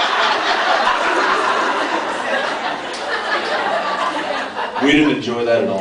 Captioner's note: laughs